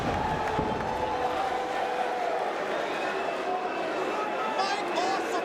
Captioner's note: crowd chattering